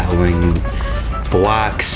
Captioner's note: inhales Oxygen